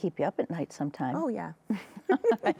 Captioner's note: both laugh